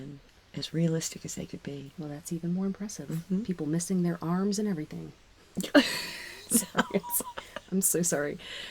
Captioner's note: laughing